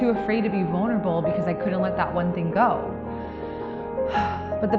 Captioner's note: sighs